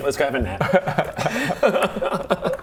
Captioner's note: smart laughter